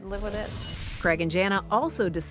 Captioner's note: swooshing sound